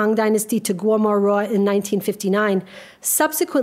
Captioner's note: speaks a foreign language